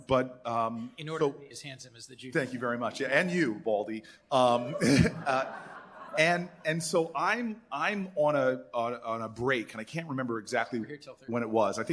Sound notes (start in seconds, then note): 4.7 laughter